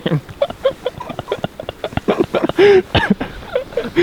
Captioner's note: all laughing quietly